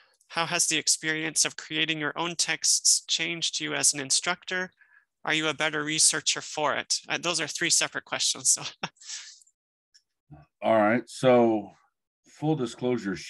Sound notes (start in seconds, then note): 8.6 chuckles